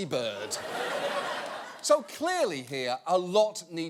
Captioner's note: audience laughing